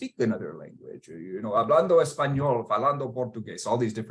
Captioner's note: speaking Spanish; speaking Portuguese